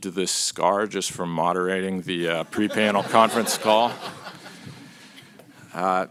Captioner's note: laughter